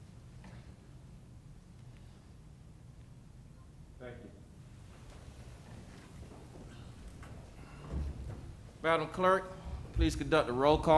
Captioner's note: moment of silence